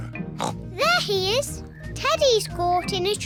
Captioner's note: oinks